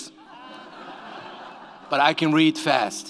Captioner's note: audience laughs